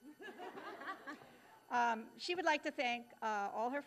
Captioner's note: both laughing